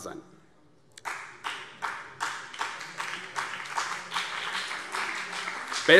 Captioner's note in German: Beifall BÜNDNIS 90/DIE GRÜNEN und CDU